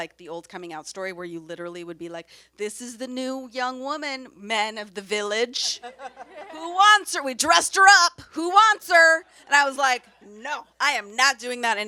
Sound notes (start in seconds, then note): 5.8 audience members laugh